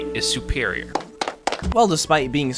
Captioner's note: applause